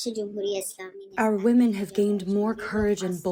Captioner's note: through translator